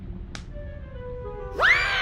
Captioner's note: slaps